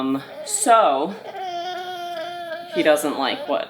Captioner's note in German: DJ weint